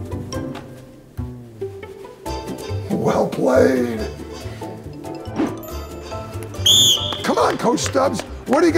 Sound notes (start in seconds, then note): 6.6 whistle blows